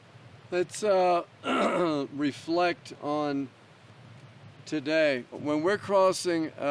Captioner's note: clears throat